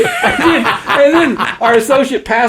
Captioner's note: both laugh